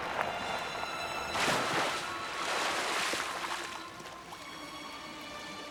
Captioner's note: water splashing